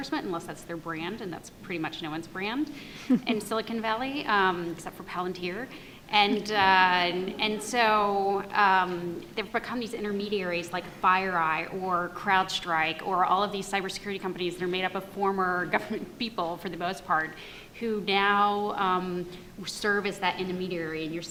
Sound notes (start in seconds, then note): 6.3 audience laughs